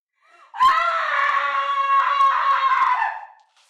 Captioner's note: screams